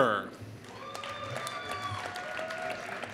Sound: applause

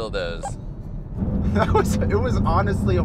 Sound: chuckles

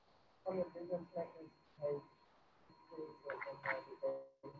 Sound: student speaking faintly

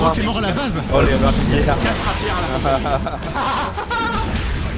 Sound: laughs

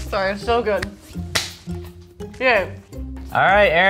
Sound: clapping

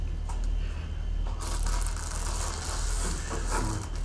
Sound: cellophane crinkling

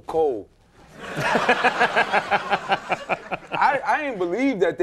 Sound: audience laughing

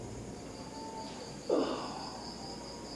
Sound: grunting

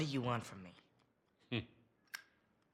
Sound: laugh

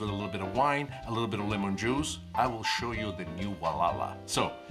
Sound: foreign language

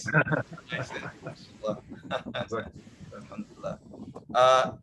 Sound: laughter

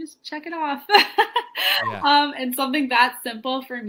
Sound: laughs

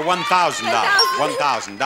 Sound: bell dings

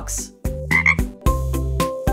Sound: ribbit!

